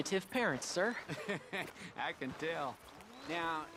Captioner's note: laughs